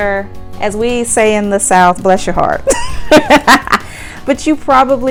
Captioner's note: laughs